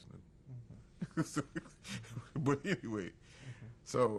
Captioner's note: laughs